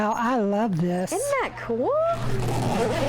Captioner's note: zipper zips